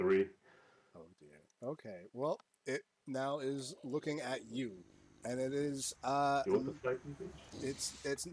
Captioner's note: angry Racoon Noises